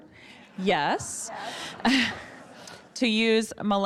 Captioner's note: audience laughing